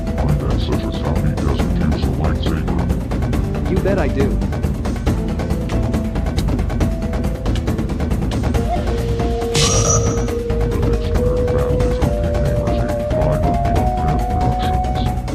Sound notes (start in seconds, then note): 5.6 lightsaber clash